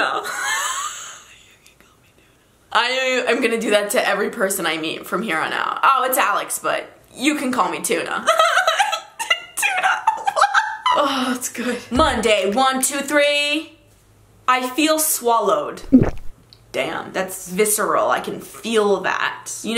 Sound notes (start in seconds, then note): 0.1 talking in laughter; 8.1 laughs; 15.9 swallowing sound